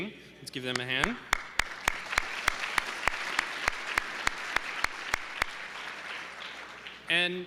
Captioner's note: applause